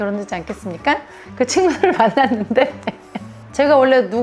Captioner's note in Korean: 웃음